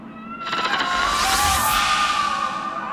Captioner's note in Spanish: Gritos en la lejanía